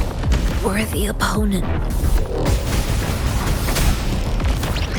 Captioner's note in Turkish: Çatışma sesleri